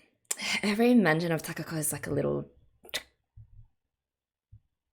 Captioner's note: stabbing sound